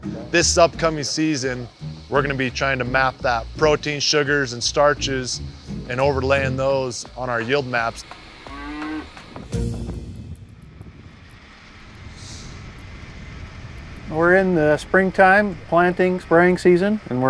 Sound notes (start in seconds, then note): 8.4 cow mooing